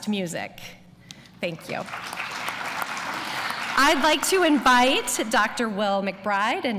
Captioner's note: applause